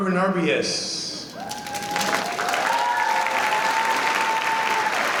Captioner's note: applause